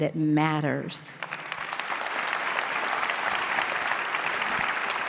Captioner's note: audience clapping